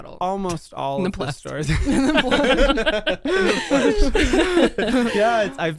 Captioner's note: everyone laughs